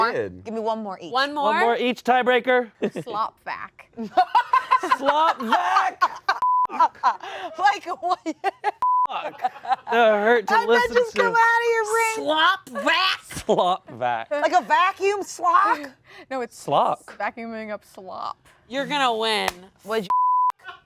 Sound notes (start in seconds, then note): 4.1 all laugh; 6.4 beeps; 8.8 beeps; 20.1 beeps